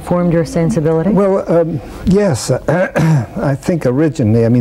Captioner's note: coughs